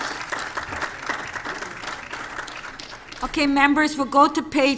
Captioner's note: applause